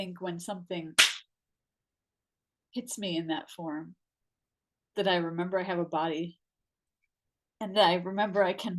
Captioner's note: loud clap